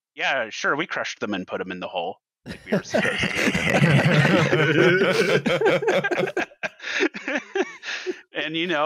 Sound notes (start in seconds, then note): 2.6 laughter